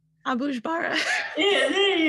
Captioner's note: laughs